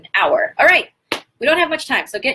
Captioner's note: clap